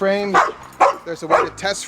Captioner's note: dogs barking